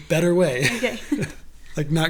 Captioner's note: laughs